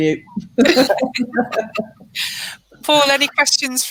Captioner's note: laughing